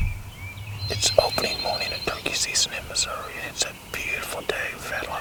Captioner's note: whispering